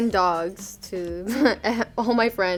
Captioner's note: laughing